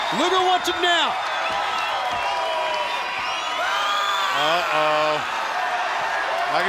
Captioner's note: crowd cheering